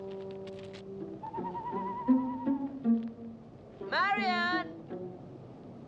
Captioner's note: birds chirping